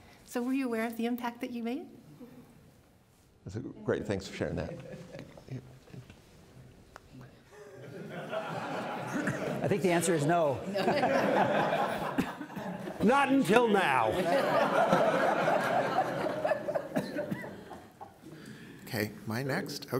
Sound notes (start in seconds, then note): 8.2 crowd laughing; 11.6 crowd laughing